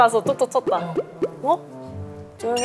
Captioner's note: tap tap tap